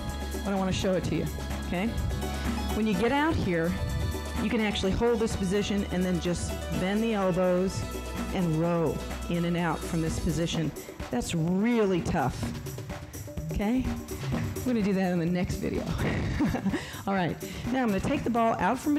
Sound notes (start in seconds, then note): 15.9 laughs